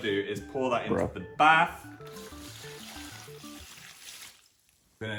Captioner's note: water splashing